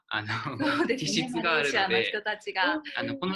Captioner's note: laughs